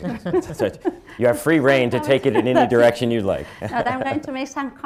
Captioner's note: laughter; laughs